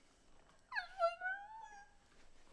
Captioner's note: whimpering